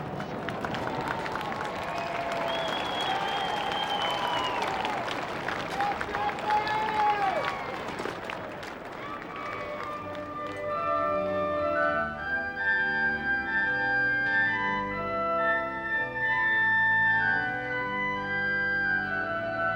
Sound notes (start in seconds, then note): 0.0 crowd cheering; 0.0 applauding; 6.3 man hollering; 11.2 joyful organ music